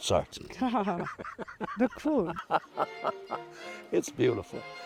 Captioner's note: both laughing